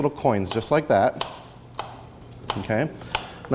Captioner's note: knife hitting board